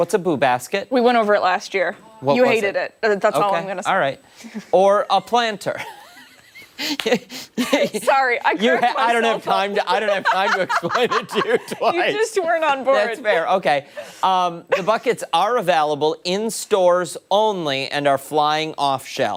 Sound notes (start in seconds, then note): 14.7 laughter